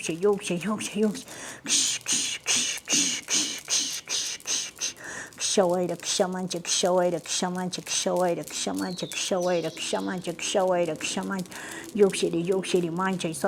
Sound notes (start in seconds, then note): 5.4 chanting in Quechua